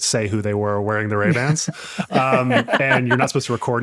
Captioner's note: laughing